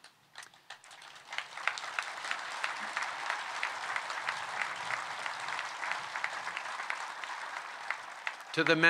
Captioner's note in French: Applaudissements